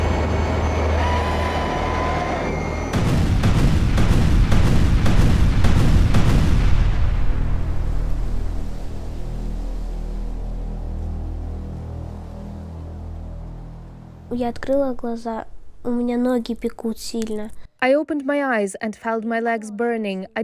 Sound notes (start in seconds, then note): 2.8 rockets firing; 14.4 speaking in Ukrainian